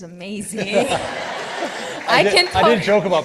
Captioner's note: participants laughing